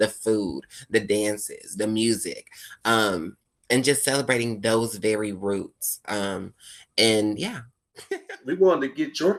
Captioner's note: laughing